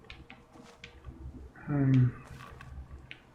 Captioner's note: sighs